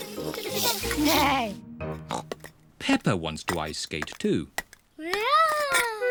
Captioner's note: snorts